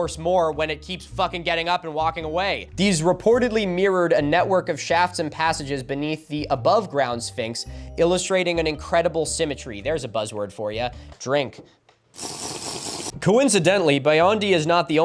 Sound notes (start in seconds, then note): 12.1 minecraft slurping